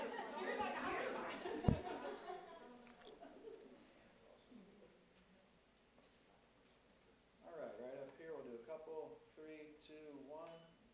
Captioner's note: laughter